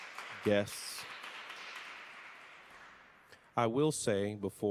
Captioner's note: audience clapping